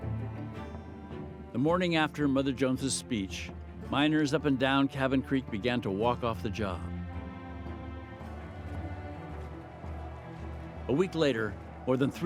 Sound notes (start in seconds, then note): 8.3 shouting